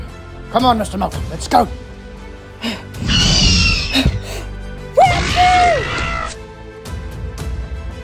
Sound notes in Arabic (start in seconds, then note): 3.0 أصوات فيلوسيرابتور; 5.0 هدير فيلوسيرابتور